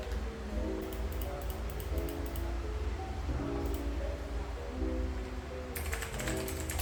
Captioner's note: click